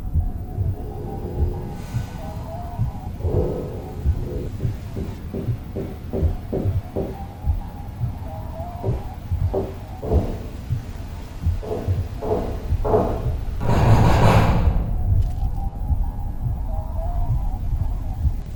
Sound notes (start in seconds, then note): 6.4 the rhythmic banging continues; 14.3 bang bang bang bang!